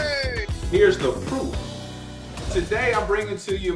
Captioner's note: air whooshes